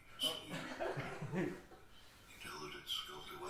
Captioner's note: laughing